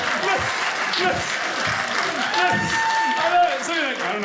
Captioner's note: audience cheering